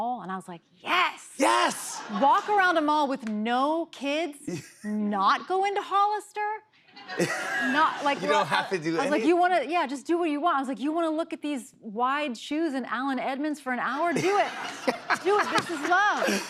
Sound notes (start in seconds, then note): 7.0 laughter